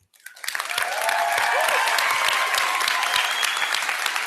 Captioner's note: applause